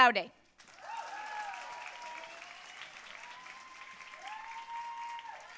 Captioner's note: audience cheering and applauding